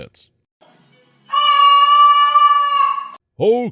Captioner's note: screaming into cup